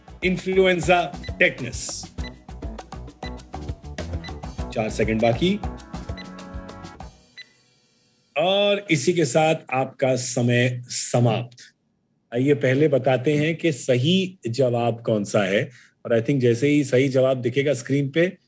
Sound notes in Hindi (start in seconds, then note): 0.9 घड़ी की बीप बजते हुए